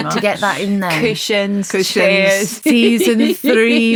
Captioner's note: laughs